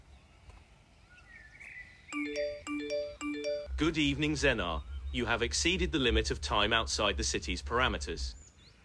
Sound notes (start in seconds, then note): 2.1 beeping